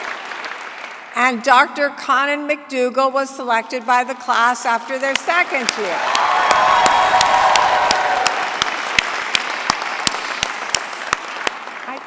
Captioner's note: cheering; applause